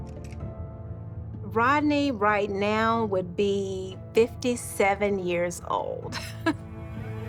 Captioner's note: chuckles